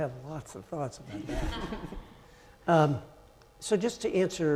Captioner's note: audience laughing